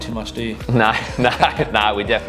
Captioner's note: laughter